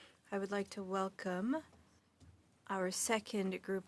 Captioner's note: speaking French